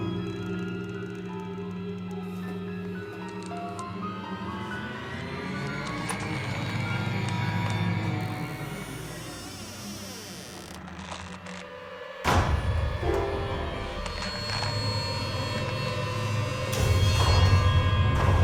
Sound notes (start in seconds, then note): 0.0 unsettling music; 8.2 door creaking; 12.0 suspenseful music